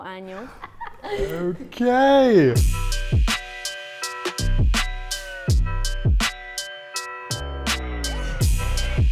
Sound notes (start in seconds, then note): 0.2 laughs; 2.5 upbeat music